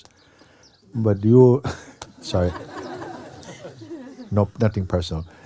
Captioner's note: laughter